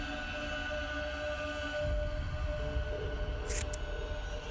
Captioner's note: hair rustling; scissors snipping